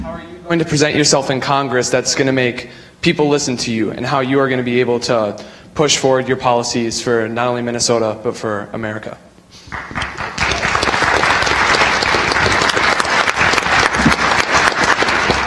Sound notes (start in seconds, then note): 9.7 audience applauds